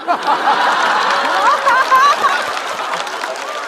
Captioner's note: haha